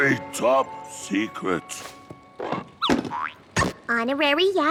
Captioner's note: boing!